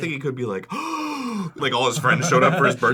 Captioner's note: pleasantly surprised gasp